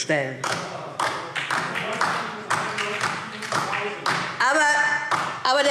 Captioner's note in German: Beifall DIE LINKE und vereinzelt SPD